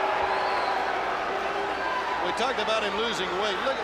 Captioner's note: crowd chatter